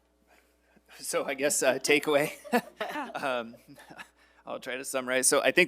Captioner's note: all laughing